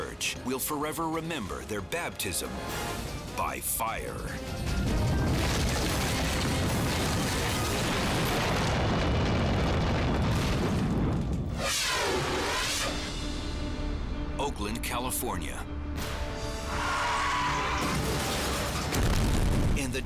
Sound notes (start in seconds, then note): 4.5 steeple crashing; 5.0 fire roaring; 11.5 scene swooshing; 16.7 tires screeching; 17.8 explosion booming